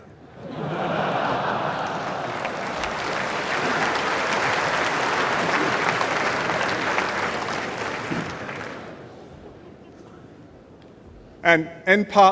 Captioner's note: applause